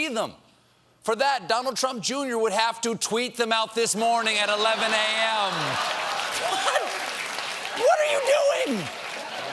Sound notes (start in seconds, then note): 4.7 laughter; 4.7 applause